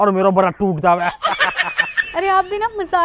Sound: laughing

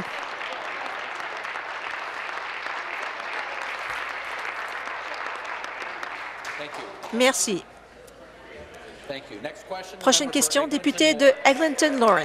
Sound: applause

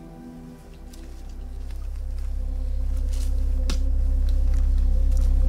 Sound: footsteps approaching

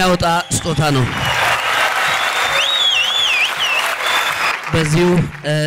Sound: applause

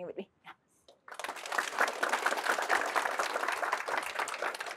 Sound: applause

